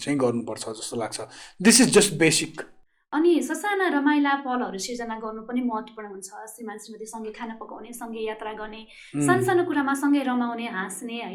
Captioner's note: laughs